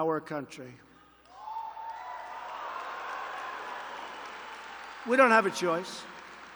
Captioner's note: applause